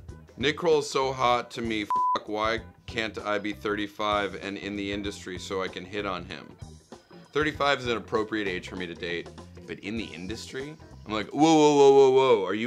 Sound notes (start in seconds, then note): 1.9 beep